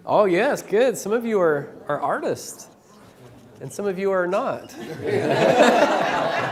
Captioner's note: laughter